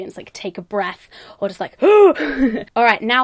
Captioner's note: laughing